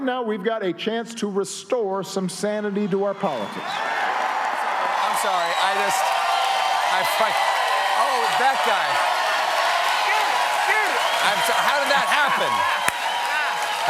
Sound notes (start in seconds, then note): 4.9 cheers and applause; 11.8 cheers and applause